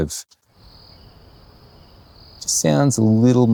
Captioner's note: insects chirping